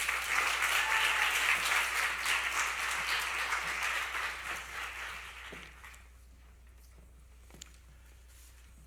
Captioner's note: applause